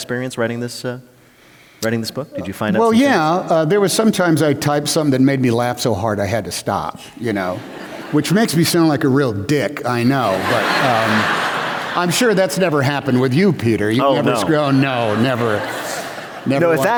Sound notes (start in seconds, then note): 10.1 laughter; 13.9 laughter